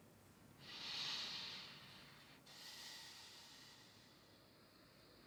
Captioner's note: inhaling & exhaling